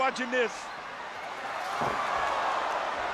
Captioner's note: applause